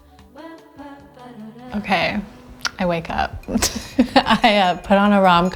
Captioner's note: laughs